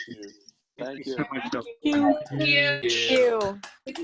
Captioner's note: crowd